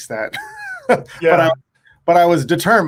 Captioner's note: laughs